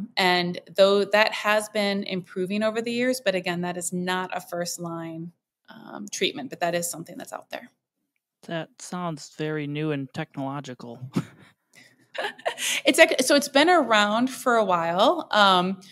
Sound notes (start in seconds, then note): 12.2 both laugh